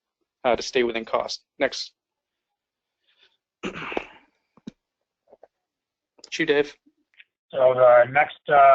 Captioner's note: cough